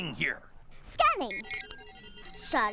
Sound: beeping

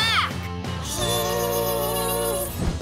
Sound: squeaking

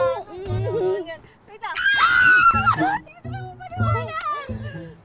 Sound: continuous giggling

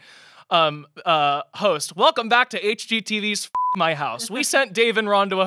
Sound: beep

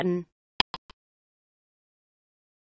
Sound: click sound

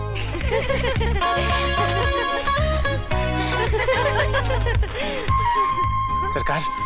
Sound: laughs

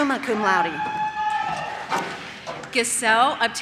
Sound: audience cheers

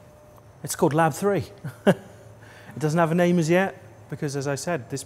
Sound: laughs

